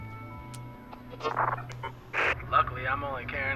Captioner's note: radio static